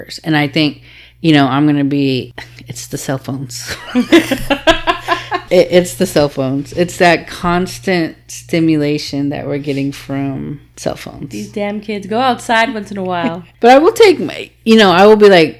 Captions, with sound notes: And I think, you know, I'm gonna be, it's the cell phones. (laughing) It's the cell phones. It's that constant stimulation that we're getting from cell phones. - These damn kids go outside once in a while. - But I will take my, you know, I will be like,